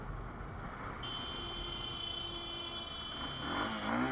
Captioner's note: horn